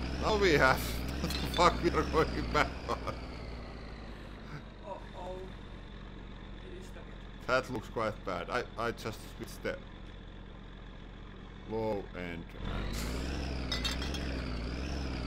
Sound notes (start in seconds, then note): 1.3 laughing; 3.5 engine slows to a halt; 12.9 engine accelerates, straining